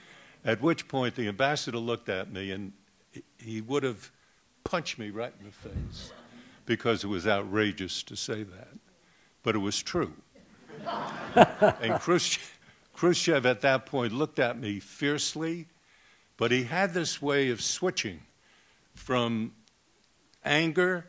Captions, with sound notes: At which point the Ambassador looked at me, and he would have punched me right in the face because it was outrageous to say that, but it was true. [Laughter] And Khrushchev at that point looked at me fiercely, but he had this way of switching from anger